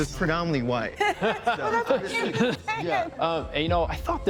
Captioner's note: group laughing